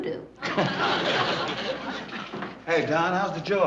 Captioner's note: laughs